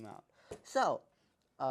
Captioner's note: breath